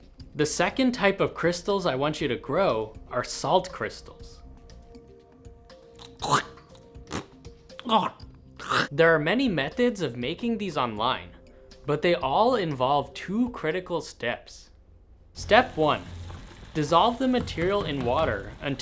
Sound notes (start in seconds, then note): 5.9 spitting and gagging sounds